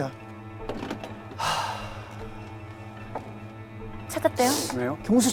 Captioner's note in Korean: 한숨소리